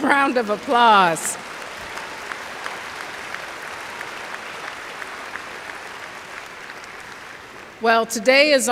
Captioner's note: applause